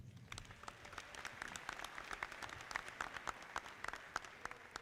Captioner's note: audience clapping